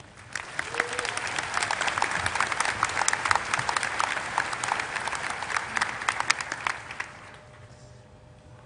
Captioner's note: applause